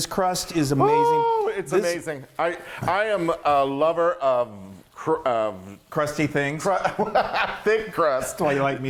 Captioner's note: laugh